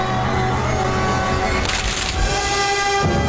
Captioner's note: twigs crunching; dramatic music